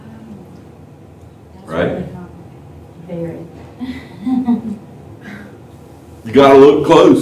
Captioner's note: laughter